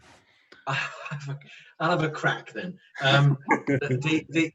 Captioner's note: laughs; laughing